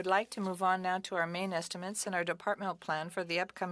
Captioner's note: speaking French